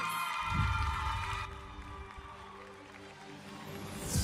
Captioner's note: audience cheering; audience applauding; uplifting music